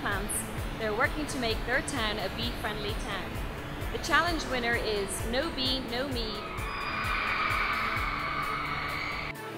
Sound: cheers

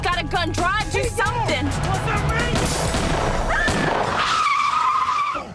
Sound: gun shots

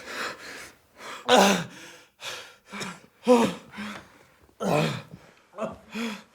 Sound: Szymon gasps; Tomek gasps

